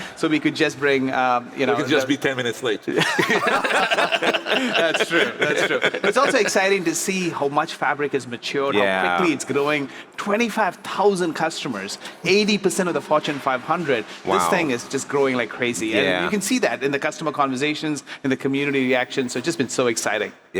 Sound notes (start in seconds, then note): 2.9 all laugh